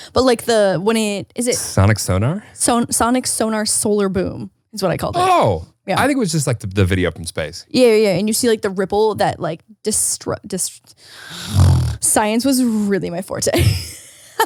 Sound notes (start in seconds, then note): 10.3 snarls; 13.4 laughs